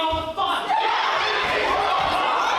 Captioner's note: various shouting